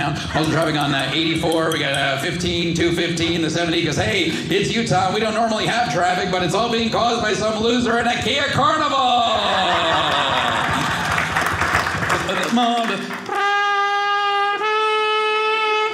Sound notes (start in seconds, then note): 9.3 audience laughing; 12.3 spanish music